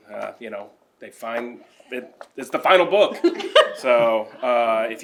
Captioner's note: laughter